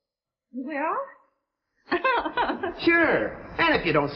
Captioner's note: Myrtle laughing